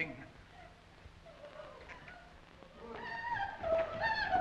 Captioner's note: woman sobbing